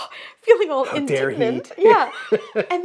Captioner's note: laughs